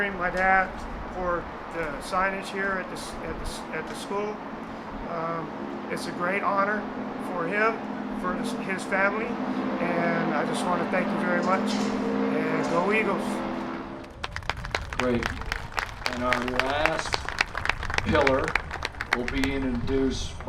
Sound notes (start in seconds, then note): 14.0 applause